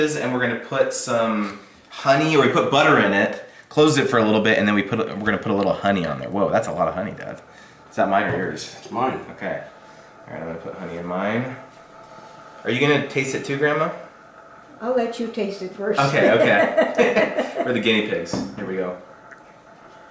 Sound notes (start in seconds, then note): 16.0 laughs